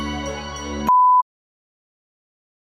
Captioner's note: beeps